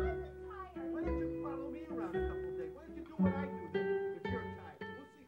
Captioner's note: people yelling